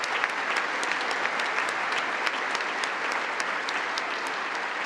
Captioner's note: congress applauding